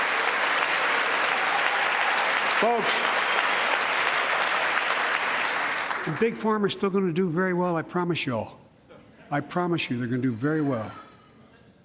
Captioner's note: applause